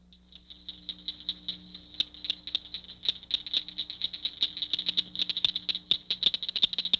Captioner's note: nature sounds